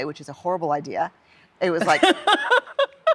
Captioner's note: laughs